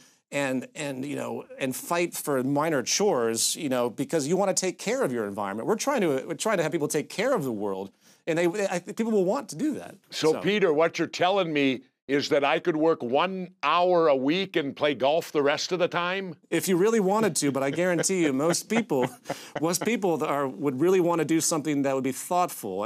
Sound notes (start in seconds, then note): 17.1 Jesse chuckling